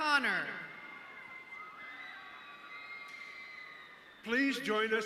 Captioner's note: audience cheering